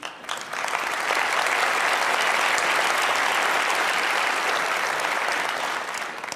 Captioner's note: Applause; 掌聲